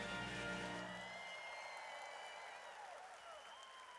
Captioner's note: audience cheers